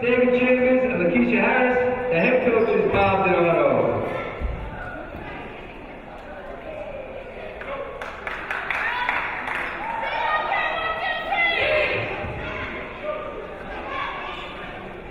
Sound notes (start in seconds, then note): 8.0 clapping; 9.8 players shouting